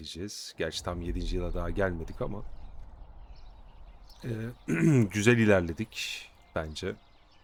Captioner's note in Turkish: boğazını temizler